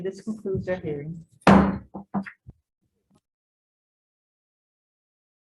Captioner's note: gavel bangs